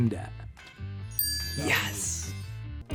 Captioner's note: chime dings